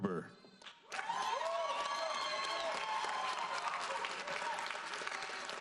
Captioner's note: audience applauds